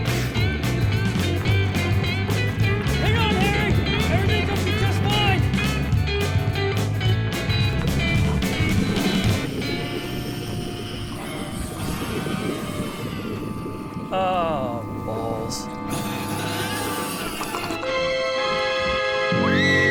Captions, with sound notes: (spitting) - Hang on, Harry! Everything's gonna be just fine! (beastly growling) Oh, balls. (ominous music)